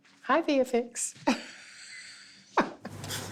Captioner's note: chuckles